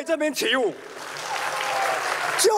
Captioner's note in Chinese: 台下掌聲